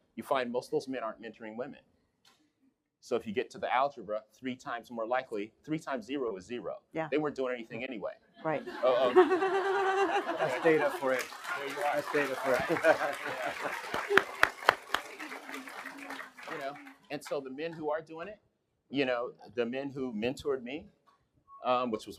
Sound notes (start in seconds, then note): 8.5 laughing; 12.0 applause